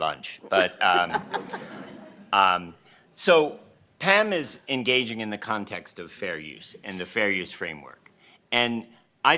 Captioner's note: laughter